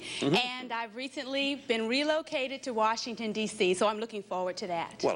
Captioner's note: none